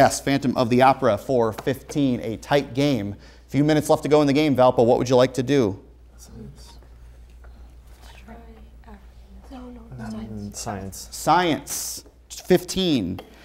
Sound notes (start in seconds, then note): 6.2 whispering